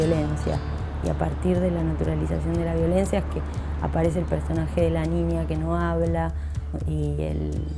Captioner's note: city noises fade out